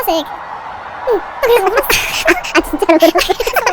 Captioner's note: bawling